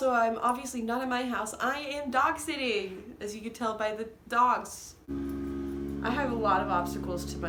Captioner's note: loud construction noises